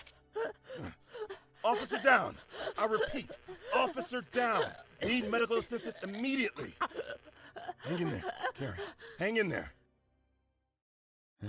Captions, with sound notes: DENNIS Officer down! I repeat, officer down! Need medical assistance immediately! KAREN *gasping* DENNIS Hang in there, Karen. Hang in there!